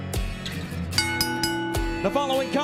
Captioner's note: bell ringing